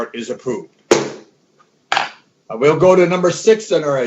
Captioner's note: gavel bangs